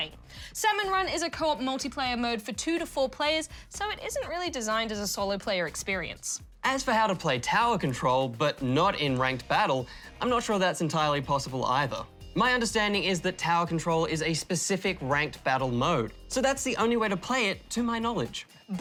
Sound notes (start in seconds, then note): none